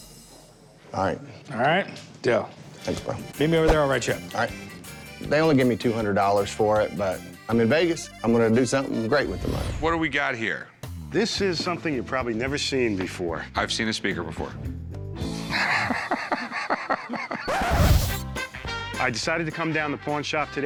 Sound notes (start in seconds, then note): 15.1 needle scratch; 15.4 laughs